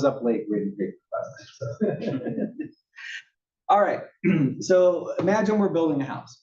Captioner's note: laugh; cough